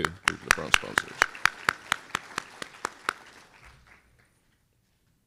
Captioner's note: applause